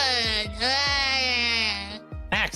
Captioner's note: crying